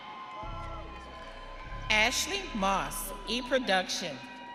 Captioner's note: audience cheering